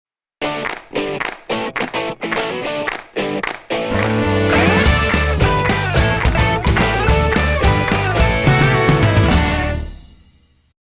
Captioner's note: claps